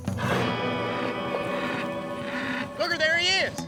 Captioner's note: bull grunting